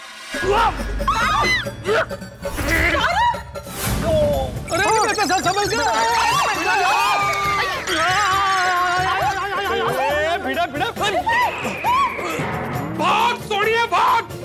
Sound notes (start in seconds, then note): 0.2 grunts; 1.1 screams; 6.0 screams